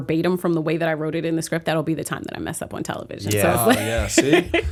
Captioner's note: chuckle